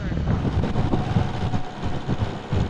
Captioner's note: wind